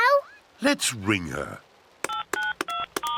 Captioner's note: phone beeps